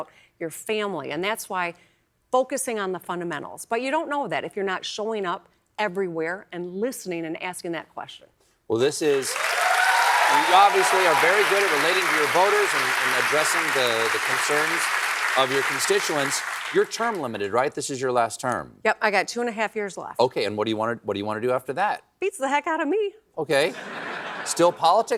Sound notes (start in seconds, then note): 9.0 applause